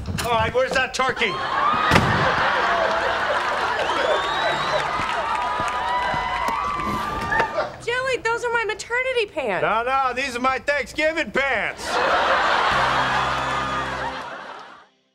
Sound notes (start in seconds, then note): 0.0 door slamming; 0.9 audience laughing; 1.7 door slamming; 4.3 audience cheering; 11.7 audience laughing